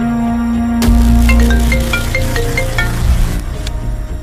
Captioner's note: cell phone rings